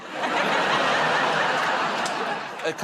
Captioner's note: laughter